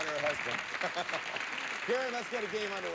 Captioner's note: audience cheering